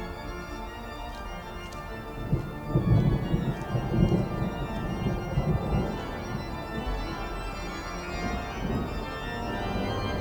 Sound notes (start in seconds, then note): 0.2 organ instrumental music; 2.2 thunder rolling; 6.2 organ instrumental music